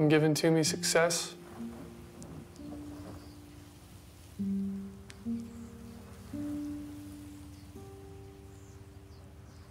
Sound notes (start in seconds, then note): 2.8 birds chirping; 2.8 wind rustling